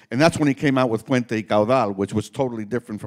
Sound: speaking Spanish

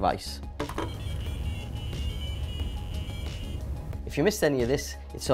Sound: AdaFruit tones

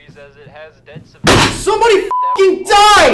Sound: beep

